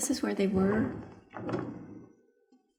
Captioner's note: sound of drawer opening